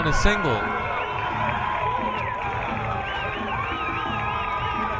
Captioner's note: crowd cheering